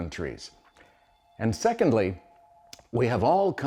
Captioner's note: phone ringing